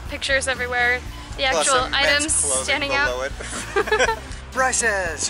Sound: laughter

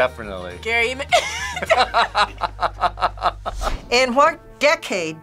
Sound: laughs; both laugh

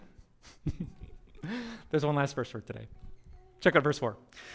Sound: pastor: Laughter

